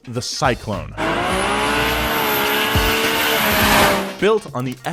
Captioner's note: car screeching